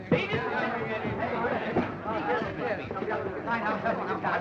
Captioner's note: crowd chattering